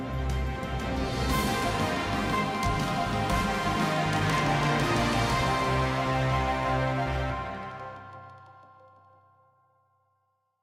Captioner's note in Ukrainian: оплески